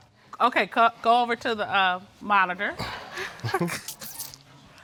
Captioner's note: both chuckling